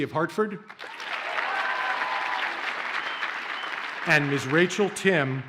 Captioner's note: audience cheers and applauds